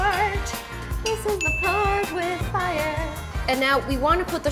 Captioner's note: bell dings